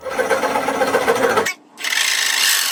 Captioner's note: drill whirring